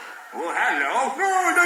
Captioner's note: different voice